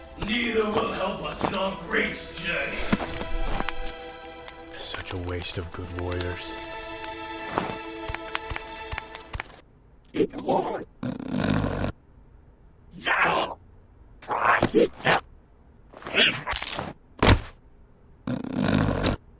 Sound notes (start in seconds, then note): 11.0 snoring Grunt; 12.7 alien cursing